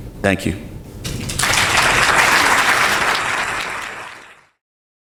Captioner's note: audience applauding